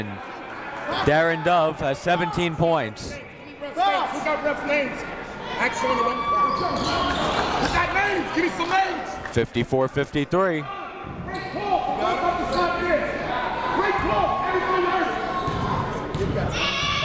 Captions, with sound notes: Darin Dove has 17 points. 54-53. (coaches yelling) (crowd talking)